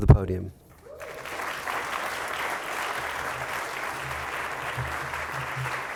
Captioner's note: applause